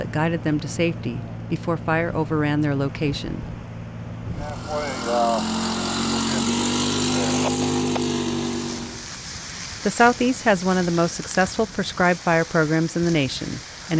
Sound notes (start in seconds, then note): 4.4 radio traffic